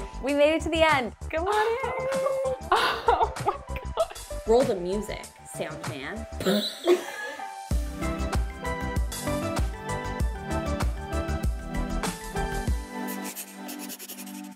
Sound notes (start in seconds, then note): 6.5 laughing; 8.1 upbeat music